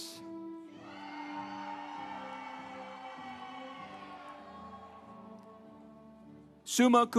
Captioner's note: instrumental music; audience cheering